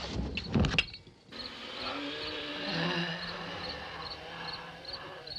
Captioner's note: groaning - wheezing